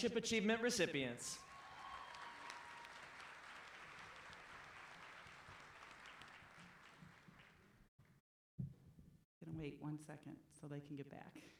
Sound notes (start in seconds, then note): 1.4 clapping